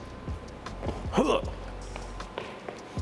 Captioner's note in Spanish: música animada; gruñidos